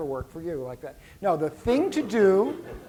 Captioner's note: laughter